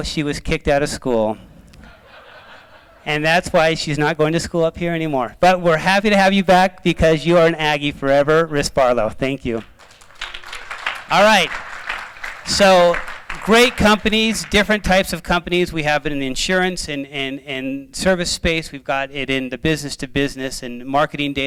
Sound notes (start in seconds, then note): 1.8 laughter; 9.5 applause